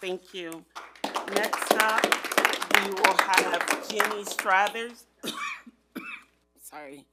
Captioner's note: coughs